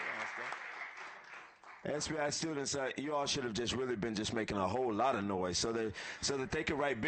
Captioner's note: applause